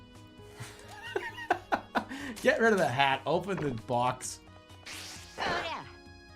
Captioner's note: bursts out laughing